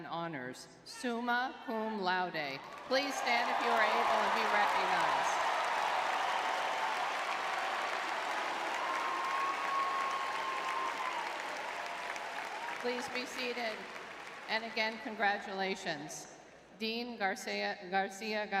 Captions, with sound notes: honors, summa cum laude. Please stand if you are able and be recognized. [audience cheering] [applause] Please be seated. And again, congratulations. Dean García, García-